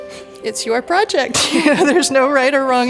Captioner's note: laughs